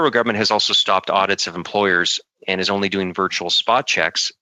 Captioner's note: speaking French